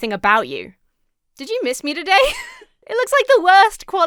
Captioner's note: laughs